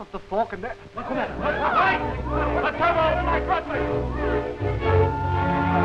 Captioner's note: everyone shouting